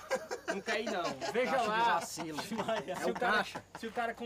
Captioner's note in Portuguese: Whindersson ri; risos